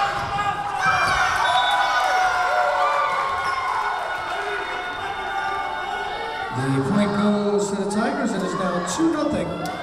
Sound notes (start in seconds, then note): 0.0 Tigers cheering; 1.4 whistle blowing